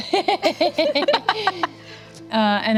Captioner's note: laughing